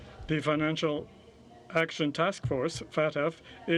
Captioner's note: speaking french